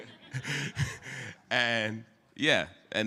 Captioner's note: laughter